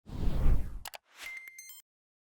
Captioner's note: whoosh; beep